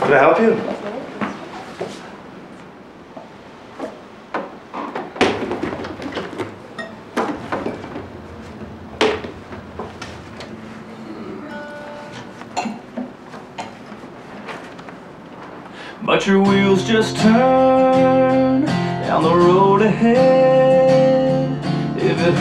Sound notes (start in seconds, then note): 5.0 guitar case clatters